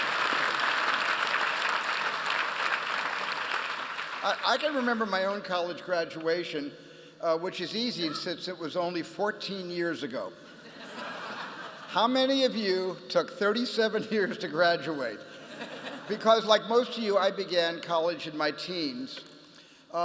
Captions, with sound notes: I can remember my own college graduation, which is easy since it was only 14 years ago. [LAUGHTER] How many of you took 37 years to graduate? Because like most of you, I began college in my teens.